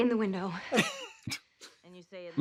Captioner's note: Trixie and Katya laugh